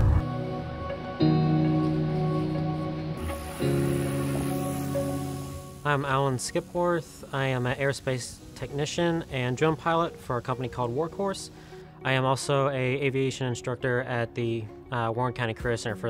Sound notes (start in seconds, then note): 0.2 upbeat music; 3.5 drone engine buzzing